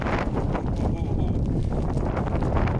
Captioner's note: laughing